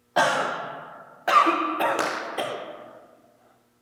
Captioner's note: Jacob coughing